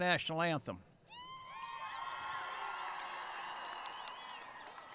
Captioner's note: cheering